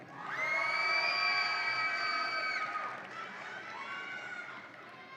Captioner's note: audience applauds and cheers